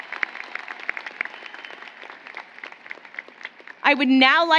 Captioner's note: applause